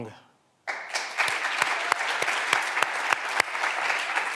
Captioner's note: clapping continues